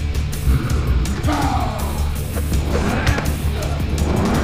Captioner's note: Bolo grunts